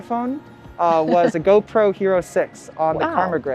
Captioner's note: laughs